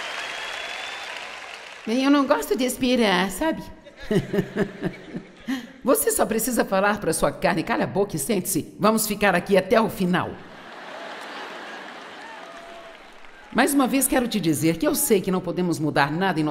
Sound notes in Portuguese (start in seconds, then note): 3.8 audiência ri; 10.6 audiência aplaude